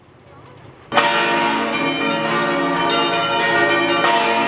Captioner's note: extremely loud bells